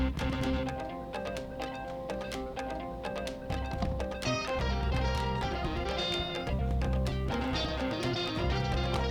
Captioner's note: cat's collar jingles